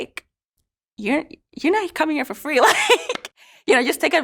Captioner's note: laughs